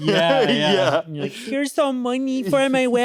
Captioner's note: chuckles